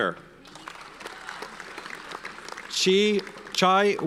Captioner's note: audience applauds